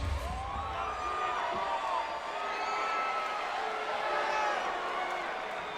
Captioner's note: audience cheering